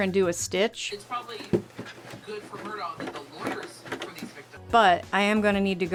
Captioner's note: smacking into the machine noises, playing in background